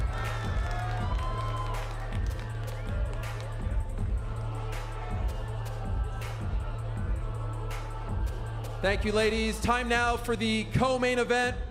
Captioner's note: applause